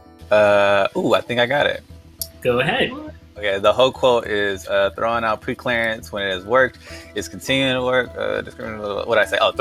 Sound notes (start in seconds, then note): 7.9 speaks gibberish